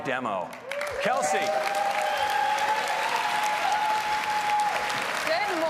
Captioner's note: applause and Cheering